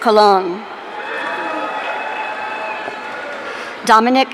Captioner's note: audience cheering